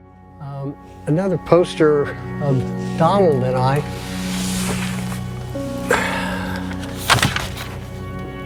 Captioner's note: sigh